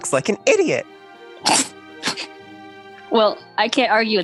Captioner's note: laughs